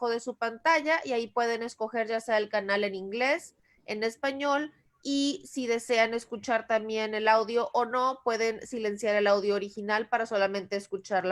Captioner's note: Spanish